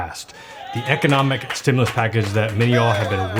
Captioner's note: cheers